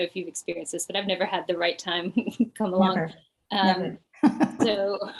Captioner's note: chuckles